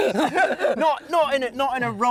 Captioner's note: both laugh